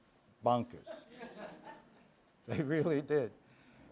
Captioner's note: laughter